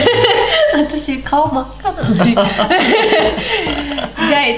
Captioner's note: laughs